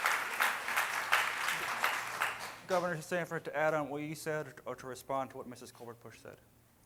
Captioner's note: cheering